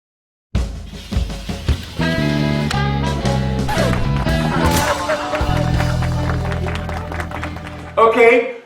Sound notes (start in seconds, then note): 2.2 applause; 2.2 laughter